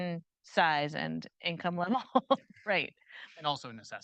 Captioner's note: chuckles